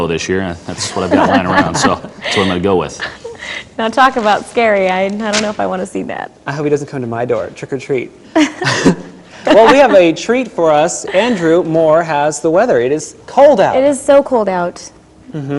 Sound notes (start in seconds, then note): 0.8 laughing; 9.4 laughter